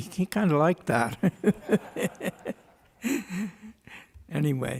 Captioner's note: laughter